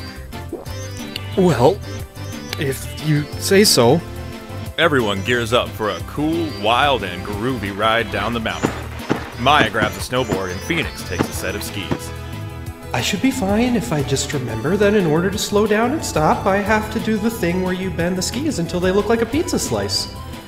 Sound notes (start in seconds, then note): 1.2 gulp; 8.3 footsteps on snow